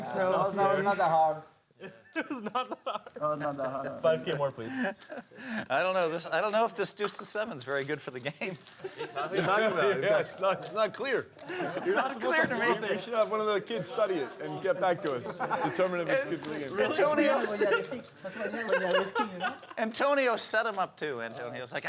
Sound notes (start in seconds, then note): 8.7 laughter